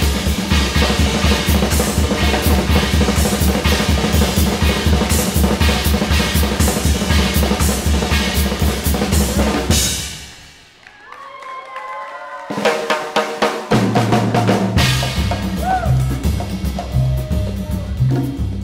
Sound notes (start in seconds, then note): 10.6 audience claps and cheers; 12.4 upbeat samba music